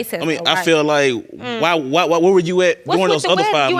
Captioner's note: stuttering